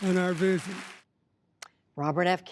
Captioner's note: applause